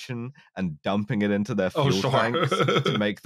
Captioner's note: laughs